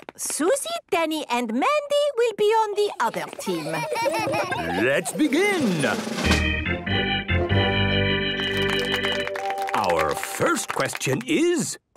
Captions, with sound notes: Suzy, Danny, and Mandy will be on the other team. - Hee hee hee! - Let's begin! - (gameshow music) - (clapping) - Our first question is,